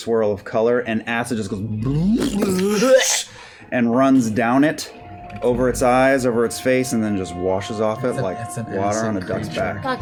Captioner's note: dripping